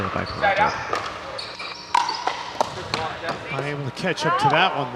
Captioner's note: people chattering